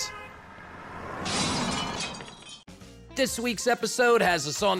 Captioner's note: glass shattering